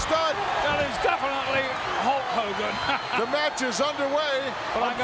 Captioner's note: laughs